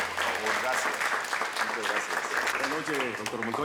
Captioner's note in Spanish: Aplausos